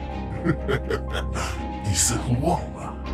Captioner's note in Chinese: 嗤笑